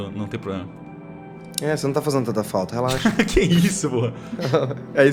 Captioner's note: laughter